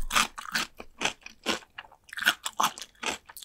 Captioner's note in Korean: 아삭아삭